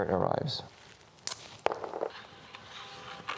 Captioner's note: tape ripping noises